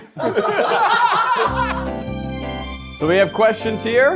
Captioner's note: everyone laughing